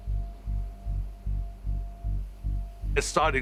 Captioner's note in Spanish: golpeteo de la lluvia